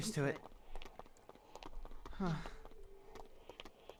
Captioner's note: relieved noises